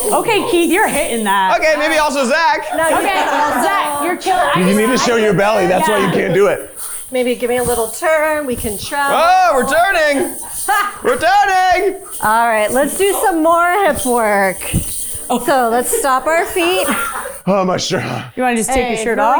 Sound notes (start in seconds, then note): 2.6 crew members chuckling; 4.6 chuckling; 10.2 chuckling; 14.5 crew members chuckling